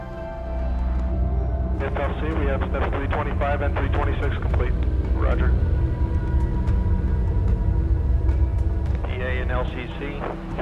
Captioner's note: radio chatter